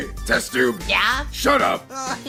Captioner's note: oof